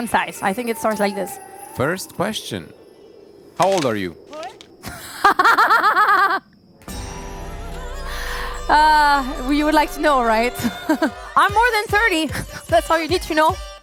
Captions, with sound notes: concise I think it starts like this first question how old are you [Laughter] uh we would like to know right I'm more than 30. that's all you need to know